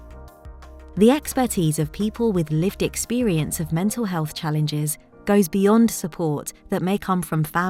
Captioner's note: automated Narration